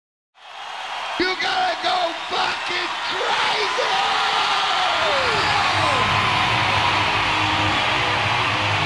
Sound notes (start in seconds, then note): 0.3 audience cheering and clapping; 4.9 upbeat heavy metal music